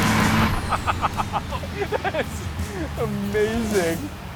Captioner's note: laughs